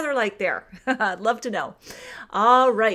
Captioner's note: laughs